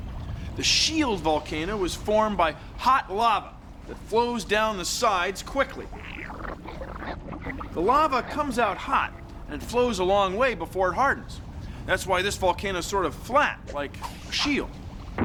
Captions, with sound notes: THE SHIELD VOLCANO WAS FORMED BY HOT LAVA THAT FLOWS DOWN THE SIDES QUICKLY. [ SQUISHING ] THE LAVA COMES OUT HOT AND FLOWS A LONG WAY BEFORE IT HARDENS. THAT'S WHY THIS VOLCANO IS SORT OF FLAT, LIKE A SHIELD.